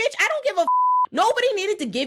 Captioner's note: beep